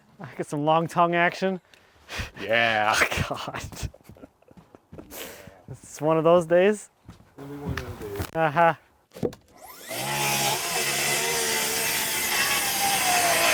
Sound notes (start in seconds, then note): 3.8 chuckling; 9.6 saw whirring